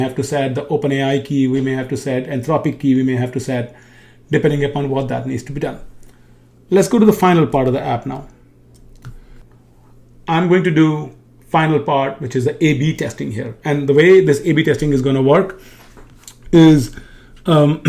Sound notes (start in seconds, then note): 8.7 keyboard clicking